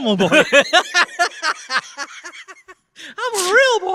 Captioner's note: laughter intensifies